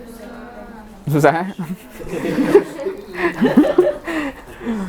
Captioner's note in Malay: ketawa